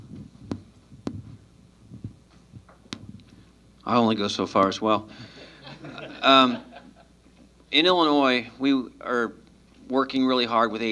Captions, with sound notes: I only go so far as well. [LAUGHTER] In Illinois, we are working really hard with ADA,